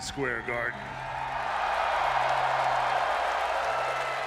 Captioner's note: crowd cheering